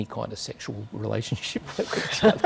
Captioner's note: chuckles